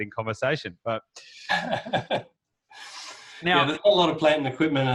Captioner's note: laughs